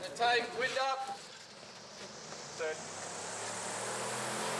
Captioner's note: fan Motor Buzzing